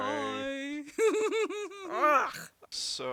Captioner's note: Rey giggles